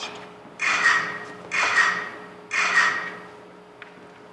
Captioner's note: camera shutter sounds